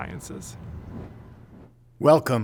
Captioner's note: air whooshing